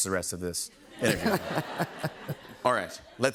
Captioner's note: laughter